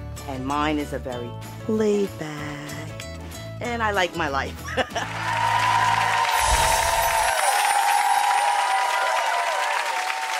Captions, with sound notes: And mine is a very laid back, and I like my life. (laughing) (audience applauding) (chimes tinkling)